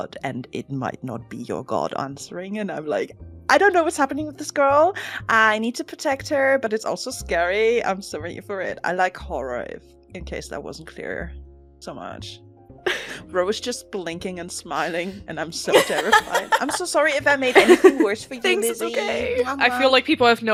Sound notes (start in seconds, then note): 12.5 laughs; 17.5 laughter